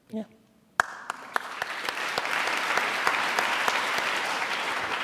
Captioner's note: applauding